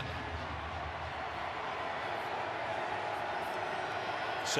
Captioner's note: crowd cheering